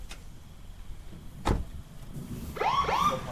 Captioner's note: door clatters; siren wails